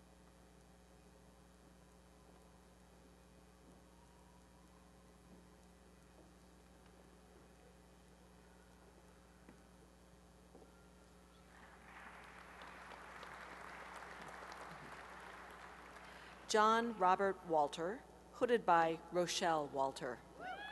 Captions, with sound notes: [applause] John Robert Walter, hooded by Rochelle Walter.